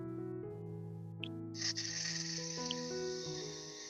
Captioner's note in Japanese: 呼吸